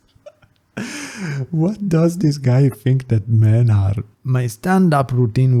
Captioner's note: laughs; inhale